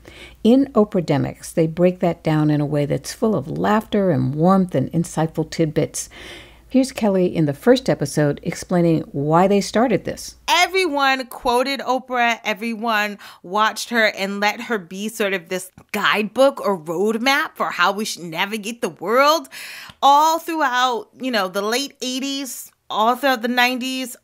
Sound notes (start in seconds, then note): 10.1 soundbite of archived recording